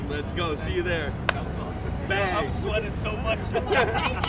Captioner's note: laughs